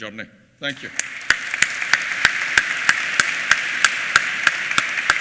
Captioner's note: applause